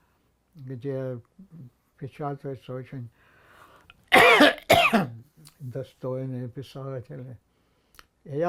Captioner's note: coughing